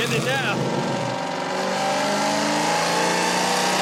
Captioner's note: engine revs